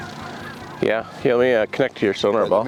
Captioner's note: geese honking